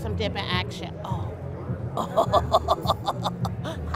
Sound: laughs

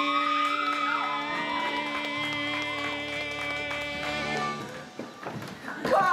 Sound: audience cheering

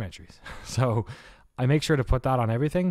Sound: laughs

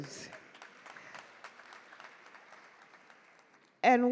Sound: audience clap

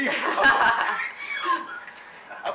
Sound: laughter

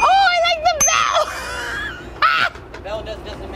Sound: bell chimes; laughing

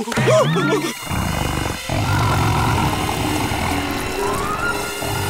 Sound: shivering; growling

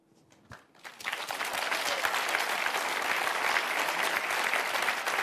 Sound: audience applauds

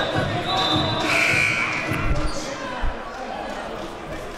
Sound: buzzer

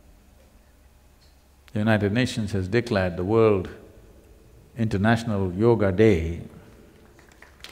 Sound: applause

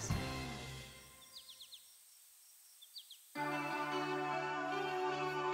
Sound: bird chirping

